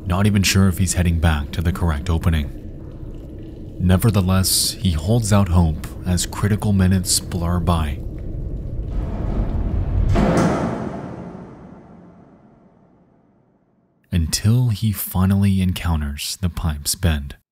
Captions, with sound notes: not even sure if he's heading back to the correct opening. Nevertheless, he holds out hope as critical minutes blur by. (high intensity music) (object thudding inside pipe) Until he finally encounters the pipe's bend.